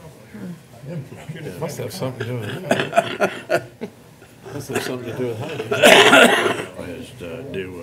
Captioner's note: laughter